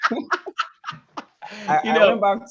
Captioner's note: laugh